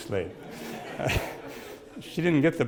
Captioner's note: audience laughs